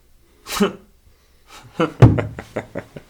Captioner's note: David laughs